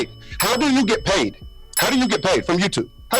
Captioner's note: bell dinging